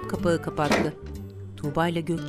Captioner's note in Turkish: Kapak kapanma sesi